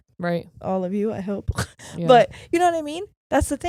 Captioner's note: chuckles